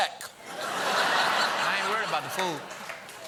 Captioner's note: laughter